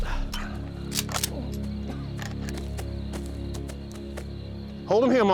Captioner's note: cocks rifle